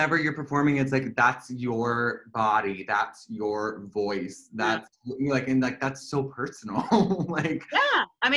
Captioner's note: laughter